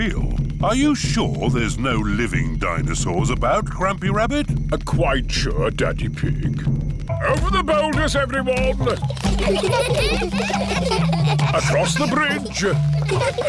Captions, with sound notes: Are you sure there's no living dinosaurs about, Grampy Rabbit? Quite sure, Daddy Pig. Over the boulders, everyone. (CHILDREN GIGGLING) Across the bridge.